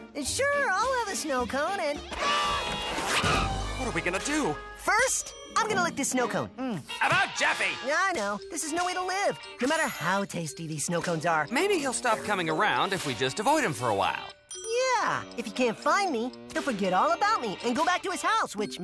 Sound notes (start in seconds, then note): none